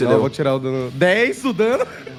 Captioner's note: laughs